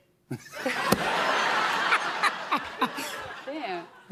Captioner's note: laughter